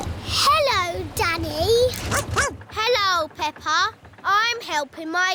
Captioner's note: snorts; barks